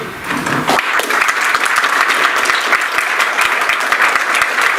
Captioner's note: audience applauds